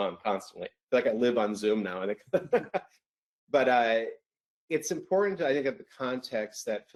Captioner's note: laughs